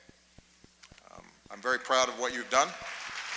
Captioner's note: applause